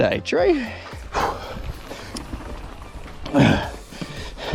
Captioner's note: pants